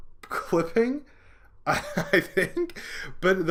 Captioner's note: laughing